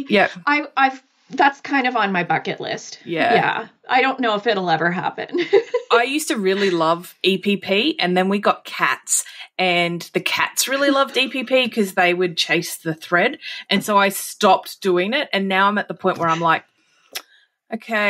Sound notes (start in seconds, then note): 6.4 laughing